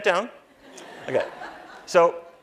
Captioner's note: laughter